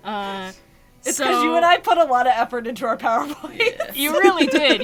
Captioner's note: laughs